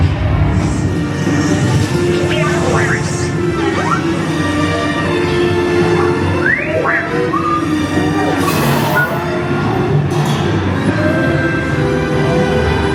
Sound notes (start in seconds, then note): 2.0 droids beeping; 7.6 door clattering and whirring